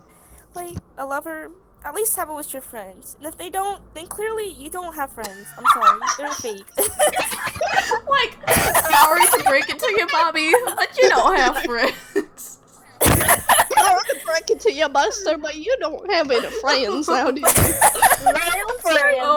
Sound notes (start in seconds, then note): 11.1 laughter in the background; 12.3 more laughter